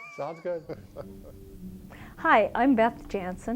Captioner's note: laughing